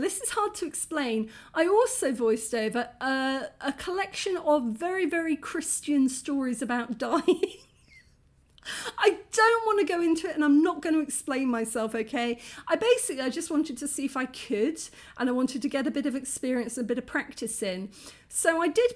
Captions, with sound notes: yeah, this is hard to explain. I also voiced over a collection of very, very Christian stories about dying. [laughing] I don't want to go into it and I'm not going to explain myself, okay? I basically- I just wanted to see if I could. And I wanted to get a bit of experience, and a bit of practice in. So I